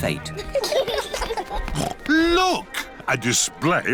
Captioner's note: laughter; snorts